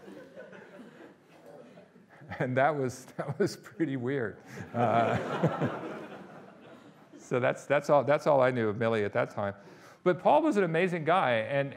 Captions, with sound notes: And, that was pretty weird. (audience laughing) So, that's all I knew of Millie at that time, but Paul was an amazing guy.